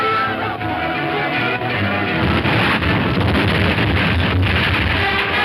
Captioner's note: bomb exploding; dramatic music